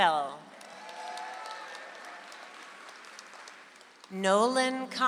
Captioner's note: audience applauds